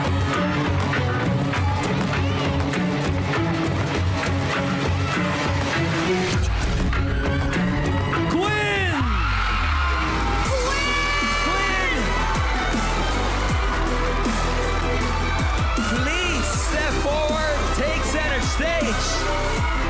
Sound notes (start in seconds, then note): 0.2 tense music continues; 9.4 crowd cheering